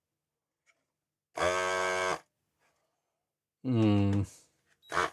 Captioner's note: buzzer